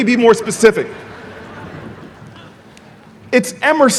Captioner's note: audience laughing